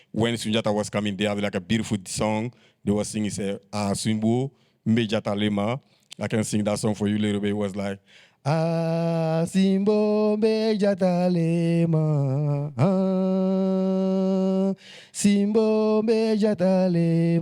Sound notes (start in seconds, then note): 3.6 speaks in Bambara; 8.4 sings